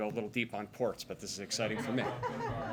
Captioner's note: laughter